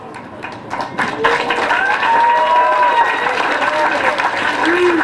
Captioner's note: applause